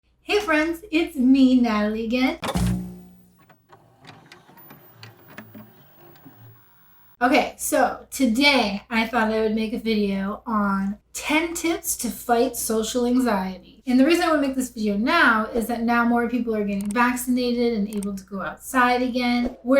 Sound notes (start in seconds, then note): 2.4 VCR noises